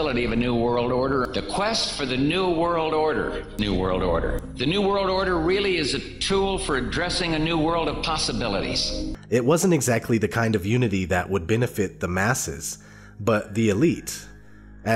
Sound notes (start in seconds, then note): 9.4 voiceover